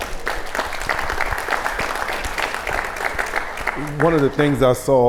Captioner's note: audience applauds